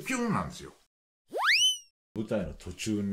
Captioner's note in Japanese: 飛んで行く音